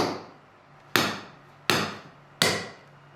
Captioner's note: hammering